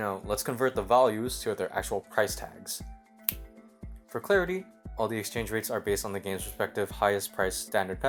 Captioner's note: snap